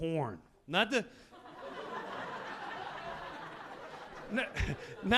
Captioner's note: audience laughing